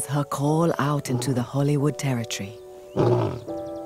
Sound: buffalo snorts

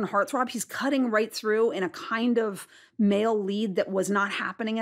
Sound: none

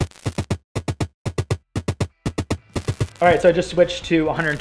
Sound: upbeat drum music; static crackling

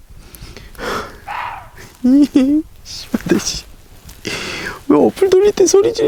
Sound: sounds of elk

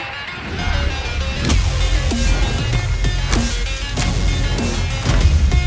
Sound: cocking rifle; dubstep music playing

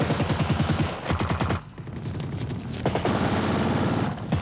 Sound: machine guns firing

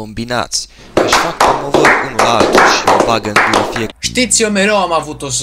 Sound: other gay shit covered by loud clapping

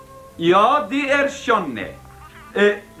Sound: speaking bad Swedish

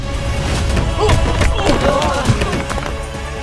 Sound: moaning; thud

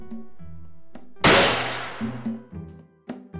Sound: gun blasts

